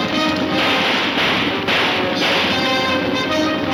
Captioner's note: horses hooves thundering; gunfire popping